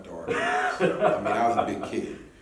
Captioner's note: laughing